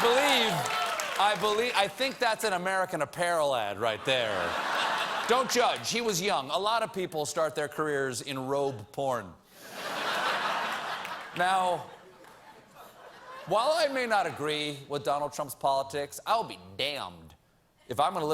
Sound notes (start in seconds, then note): 9.6 laughter